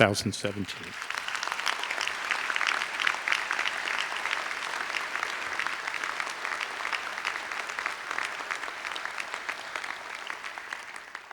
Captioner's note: applause